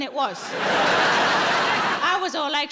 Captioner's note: audience laughing